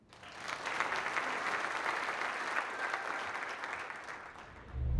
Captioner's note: applause